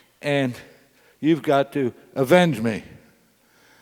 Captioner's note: none